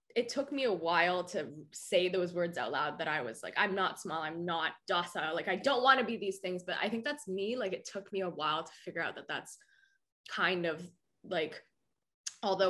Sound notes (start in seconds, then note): none